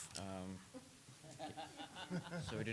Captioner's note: council members chuckling